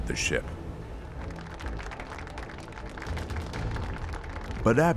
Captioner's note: audience clapping